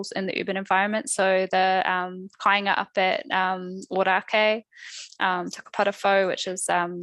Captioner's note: non-english speech